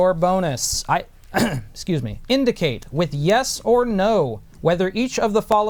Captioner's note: cough